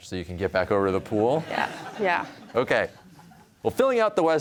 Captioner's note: laughter